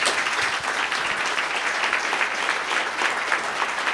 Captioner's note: applause